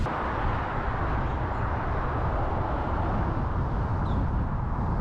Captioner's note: traffic noise; strong winds blowing